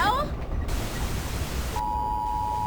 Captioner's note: TV statics; TV beep